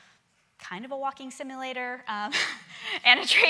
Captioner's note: chuckling